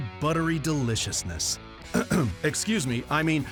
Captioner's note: clears throat